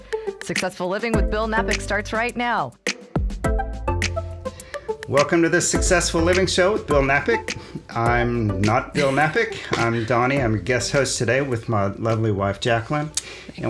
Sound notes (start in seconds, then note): 3.0 bright music; 8.9 laughs